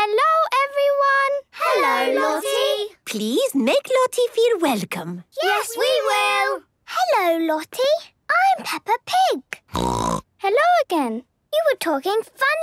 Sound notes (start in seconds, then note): 9.7 snorting